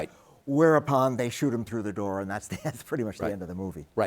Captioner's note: chuckles